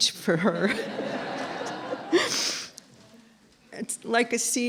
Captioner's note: laughter